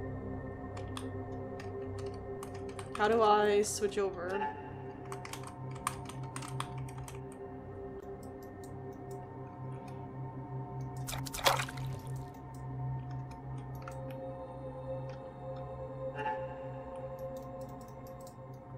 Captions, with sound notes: [Keyboard Clicking] How do I switch over? [Keyboard Clicking] [Mouse Clicking] [Mouse and Keyboard Noises] [More Clicking]